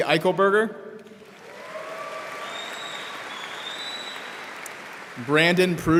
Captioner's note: audience applauding